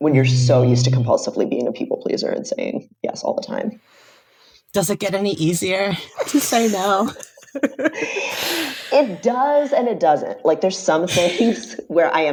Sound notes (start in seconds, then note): 6.0 laughing